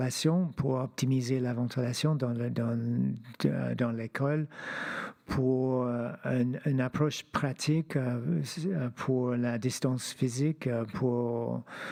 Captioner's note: speaking French